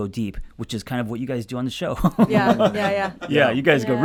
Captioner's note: group laughs